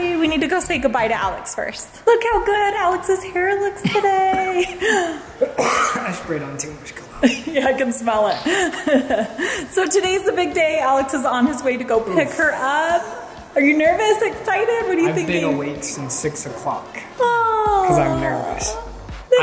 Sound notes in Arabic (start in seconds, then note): 5.3 يسعل; 8.6 ضحكة خافتة